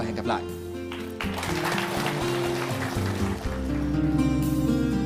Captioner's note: applause